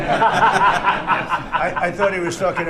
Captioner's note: laughter